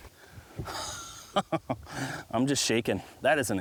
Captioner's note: laughing